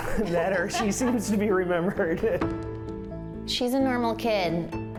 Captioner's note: laughs